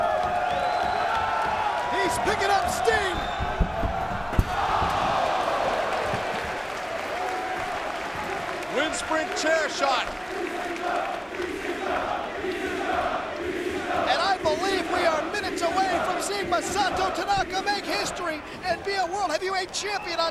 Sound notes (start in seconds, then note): 0.2 crowd vocalizing; 4.6 chair thuds; 6.8 crowd clapping; 10.4 crowd chanting